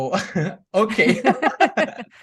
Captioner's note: laughs